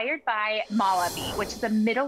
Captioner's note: graphics whoosh